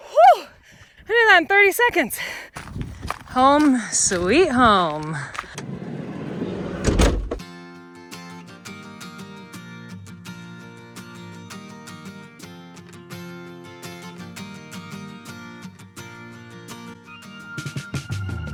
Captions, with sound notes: Whoo. I did that in 30 seconds. Home, sweet home. (car door slams) (peaceful music)